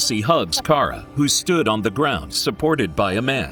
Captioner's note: chuckles